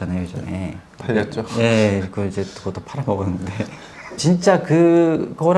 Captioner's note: laughs